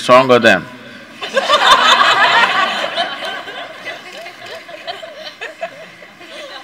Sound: laughter

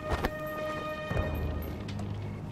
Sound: cloth rustling

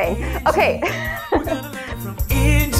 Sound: laughs

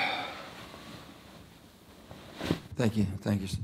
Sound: groans

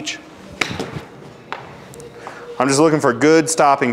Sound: ball thuds

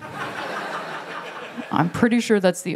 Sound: laughter

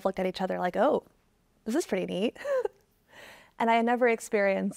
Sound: chuckling

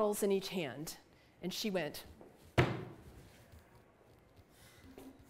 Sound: bang of hands thumping on a desk

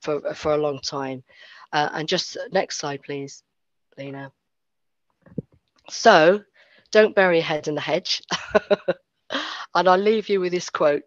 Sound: laughs

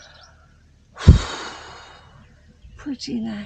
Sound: loud exhale

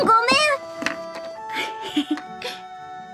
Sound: chuckles

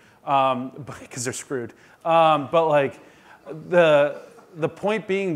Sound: audience laughing

